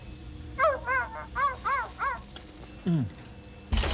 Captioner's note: <i> dog barking</i>